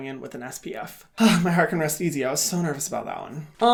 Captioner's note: exhales